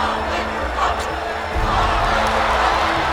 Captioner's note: crowd cheering; dramatic music playing